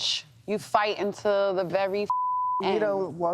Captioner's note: beep